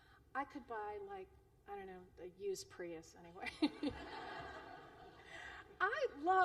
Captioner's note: laughter